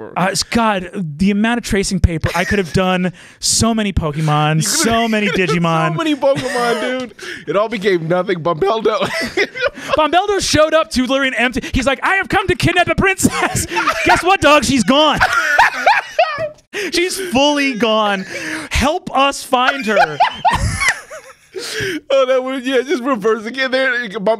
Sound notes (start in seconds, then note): 8.1 laughs; 15.3 laughter